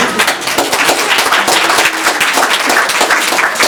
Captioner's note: techno music; applause